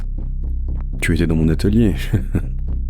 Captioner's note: laughs